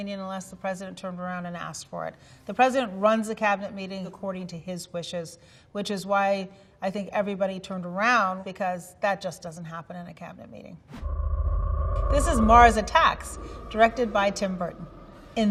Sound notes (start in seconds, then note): 10.9 flying saucer revving